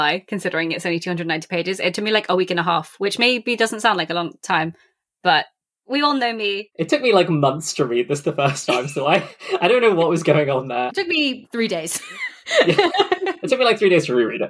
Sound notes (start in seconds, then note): 7.2 laughs